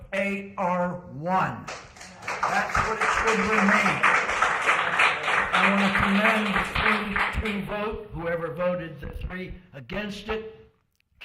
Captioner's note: applause